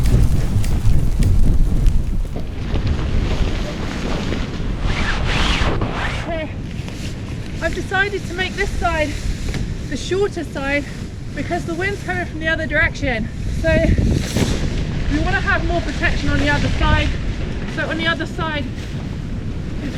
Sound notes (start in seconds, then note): 2.7 wind